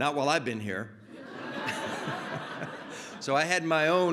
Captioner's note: laughter